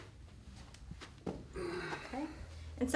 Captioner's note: heavy breaths